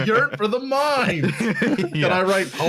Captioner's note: laughter